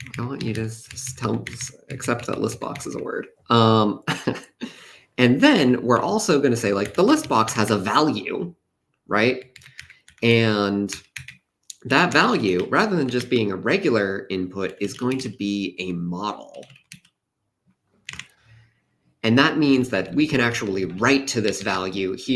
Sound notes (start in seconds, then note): 4.1 laughs